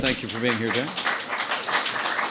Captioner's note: applause